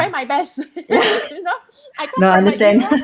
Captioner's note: laughing